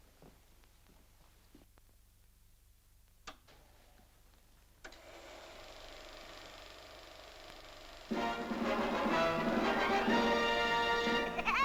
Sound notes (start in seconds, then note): 3.2 light switch clicks; 5.0 projector rolls; 8.1 dramatic music; 11.2 Woody the Woodpecker laugh